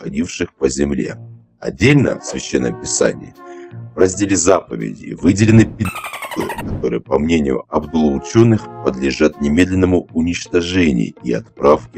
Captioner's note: dolphin beep